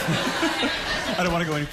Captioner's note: laughter